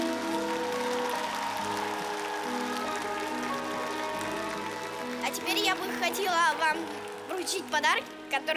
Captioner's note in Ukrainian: оплески